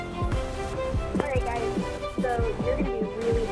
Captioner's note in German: Voiceover